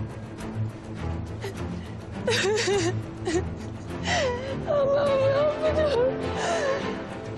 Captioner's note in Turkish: ağlayarak